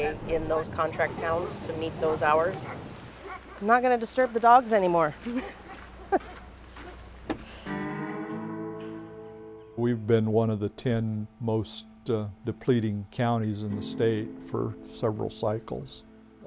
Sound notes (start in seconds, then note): 5.2 chuckles; 6.7 slow bluesy music